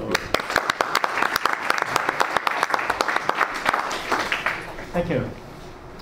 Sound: audience and panelists applaud

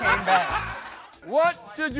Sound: laughter

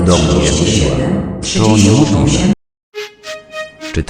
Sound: railway Station Announcement; railway Station Announcement

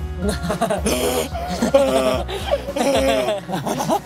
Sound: mimicking a panting cheetah

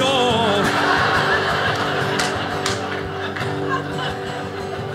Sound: audience laughing

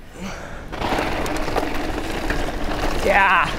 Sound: bike rattles

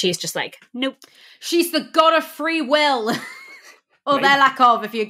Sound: laughs

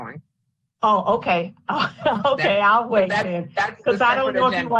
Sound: laughs

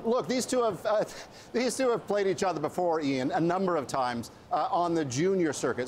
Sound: laughter

